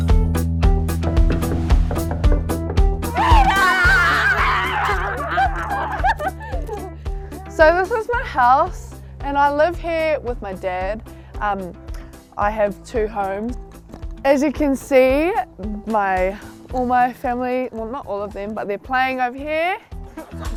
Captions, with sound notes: (energetic music) (girls scream) So this is my house, and I live here with my dad. I have two homes. As you can see, all my family, well, not all of them, but they're playing over here.